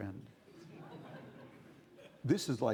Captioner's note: audience laughing